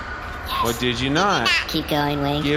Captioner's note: whispering